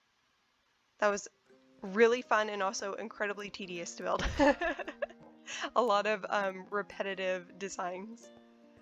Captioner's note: laughs